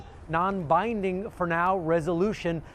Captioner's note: speaking in arabic